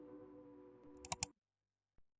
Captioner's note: 𝘤𝘭𝘪𝘤𝘬